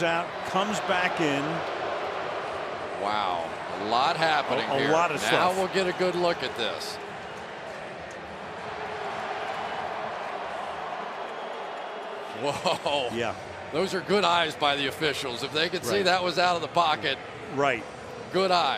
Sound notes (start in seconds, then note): 2.3 booing; 12.3 chuckles